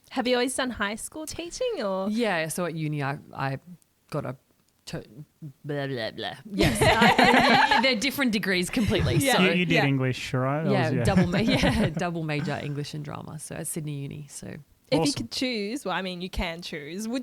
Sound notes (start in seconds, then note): 3.3 stammering; 6.6 laughter